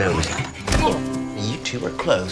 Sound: thud

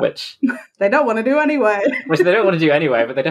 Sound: laughs

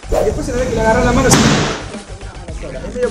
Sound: bang

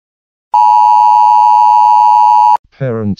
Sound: EAS alert sound

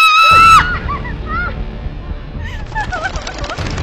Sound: Polly screams; Polly weeps

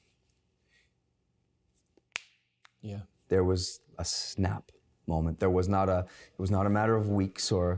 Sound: snapping of finger

